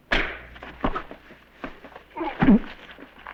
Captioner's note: thud